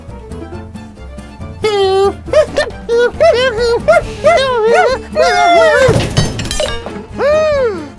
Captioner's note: crash